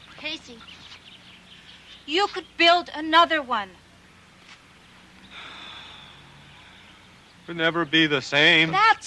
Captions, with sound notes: - Casey, you could build another one. (Casey sighs) - Could never be the same.